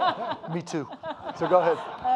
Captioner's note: audience laughing